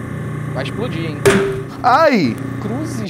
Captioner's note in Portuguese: lata explode